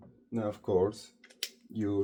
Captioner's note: putting the cap on the marker